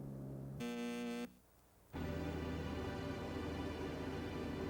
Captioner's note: phone buzzing